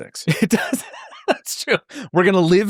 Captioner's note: laughs